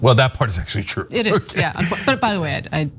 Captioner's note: laugh